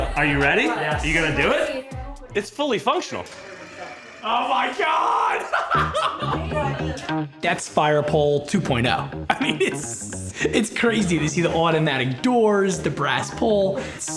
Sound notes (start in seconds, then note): 5.1 laughs; 6.5 upbeat music